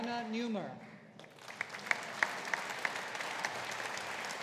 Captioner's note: audience applauding